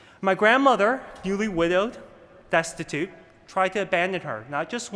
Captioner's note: none